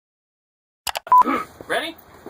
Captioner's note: click and beep; clearing throat